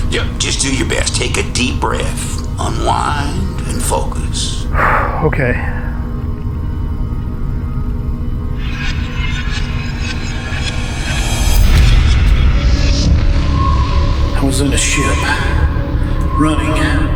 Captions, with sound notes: Yep, just do your best. Take a deep breath, unwind and focus. - (sighs) Okay. (energy whirring) I was in a ship, running.